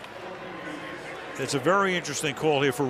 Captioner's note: pa announcement